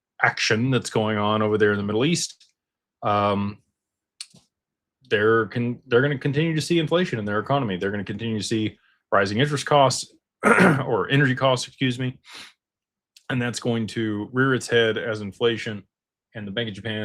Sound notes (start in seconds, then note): 10.4 clears throat